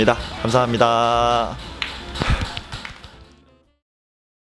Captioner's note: claps